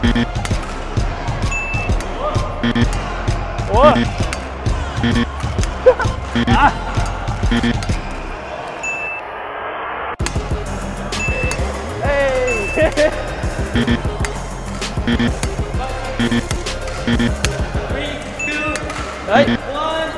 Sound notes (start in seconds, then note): 12.5 laughs